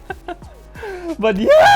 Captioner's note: criessss